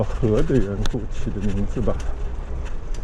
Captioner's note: fire